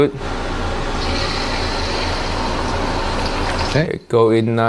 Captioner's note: egg sizzles